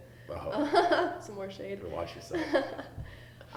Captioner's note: haha; laughter